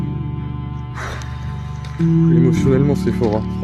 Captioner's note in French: soupir